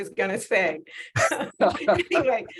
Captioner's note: laughing